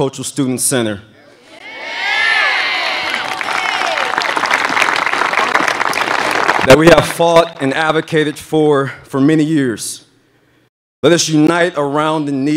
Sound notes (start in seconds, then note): 8.3 applause